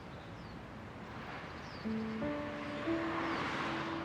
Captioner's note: traffic sounds